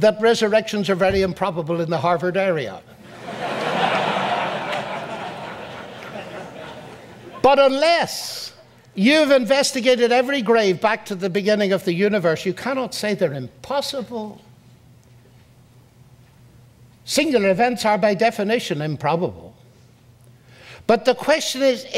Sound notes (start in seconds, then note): 3.0 audience laughs